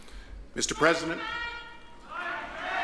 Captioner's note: audience member shouts